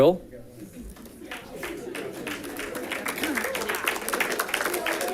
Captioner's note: audience clapping